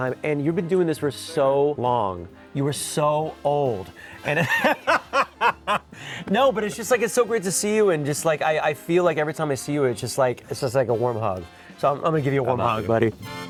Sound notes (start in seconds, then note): 4.2 both laughing; 13.3 upbeat music